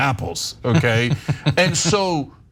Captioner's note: laugh